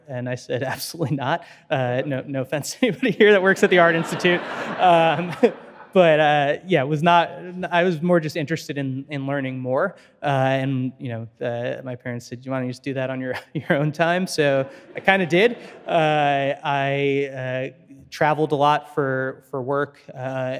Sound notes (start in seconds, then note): 4.9 audience laughing